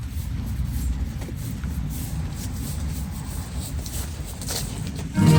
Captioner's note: footsteps